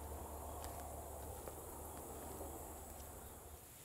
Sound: insects buzzing

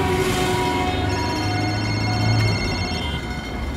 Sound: cellphone rings

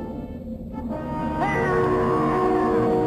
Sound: screams

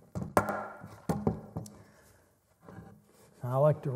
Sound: boards hitting

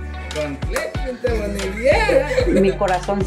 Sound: speaking Spanish

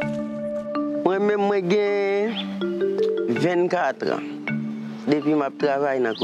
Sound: speaking in foreign language

